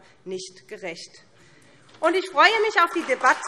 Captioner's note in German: Beifall SPD